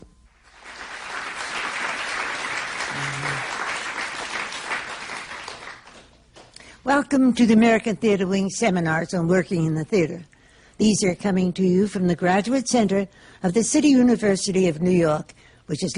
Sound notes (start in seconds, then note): 0.4 applause